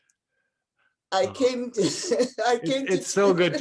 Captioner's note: laughs